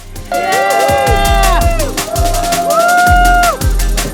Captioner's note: people cheering; upbeat music